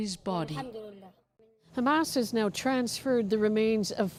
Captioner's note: speaking Alternate Language